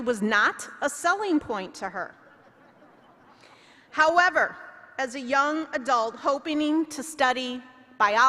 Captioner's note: laughter